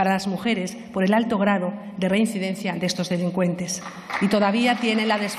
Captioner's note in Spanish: Aplausos